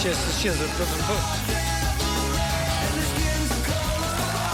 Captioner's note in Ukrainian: оплески